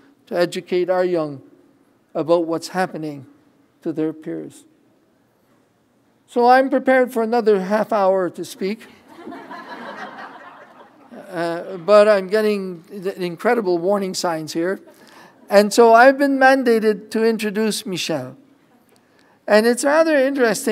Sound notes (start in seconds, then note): 9.0 laughter